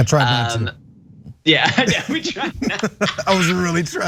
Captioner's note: laugh